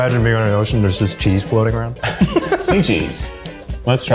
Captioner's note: laugh